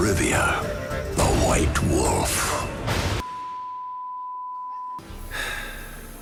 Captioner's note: beeping